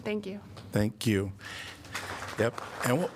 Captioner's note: applause